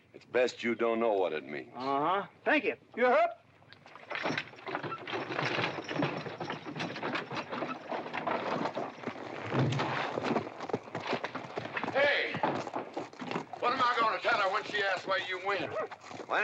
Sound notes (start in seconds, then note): 4.0 carriage rattles away